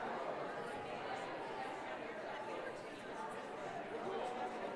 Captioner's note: none